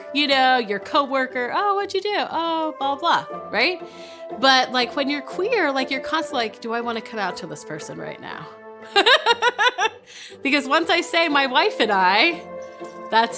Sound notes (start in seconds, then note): 9.0 laughing